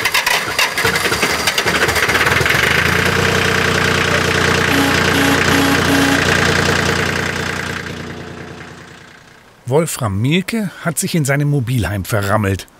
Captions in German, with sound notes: (Der Motor springt an.) (Energisches Hupen) Wolfram Mielke hat sich in seinem Mobilheim verrammelt